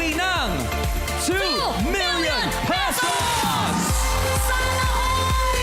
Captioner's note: audience cheering